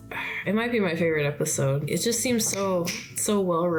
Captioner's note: snaps